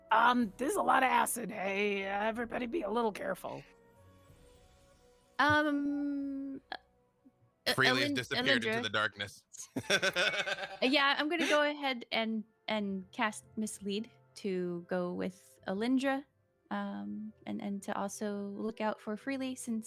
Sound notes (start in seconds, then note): 9.8 laughs